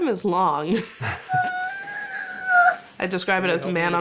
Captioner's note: whining